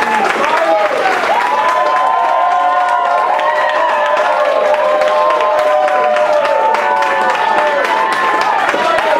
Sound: cheering

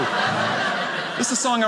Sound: audience laughing

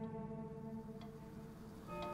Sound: clock ticking; bell tolling

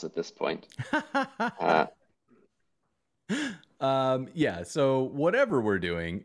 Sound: laughter

